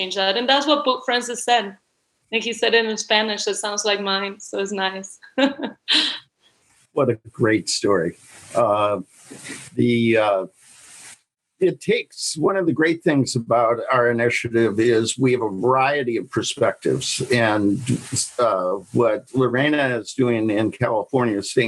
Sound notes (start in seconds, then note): 5.2 laughing